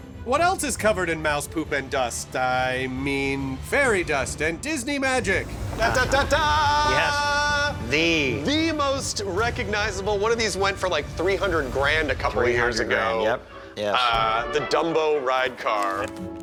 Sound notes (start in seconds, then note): 5.7 singsong